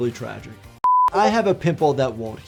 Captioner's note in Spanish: pitido de pantalla